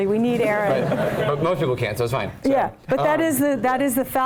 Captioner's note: laugh